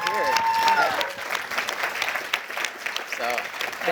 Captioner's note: applause